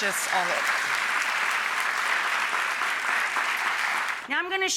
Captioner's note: audience applauding